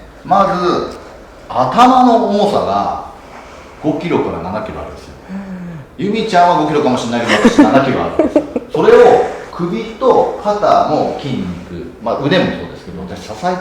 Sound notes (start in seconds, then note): 7.2 laughs